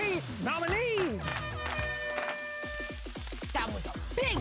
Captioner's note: air horn blares